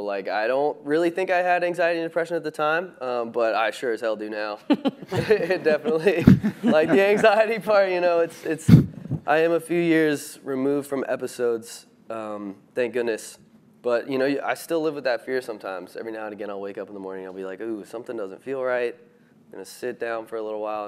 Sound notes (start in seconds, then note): 4.6 chuckles; 4.7 speaker chuckles